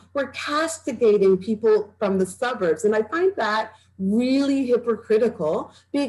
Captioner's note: none